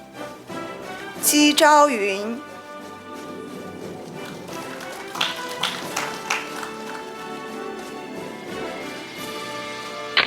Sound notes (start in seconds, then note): 2.4 audience applauding; 6.9 orchestral music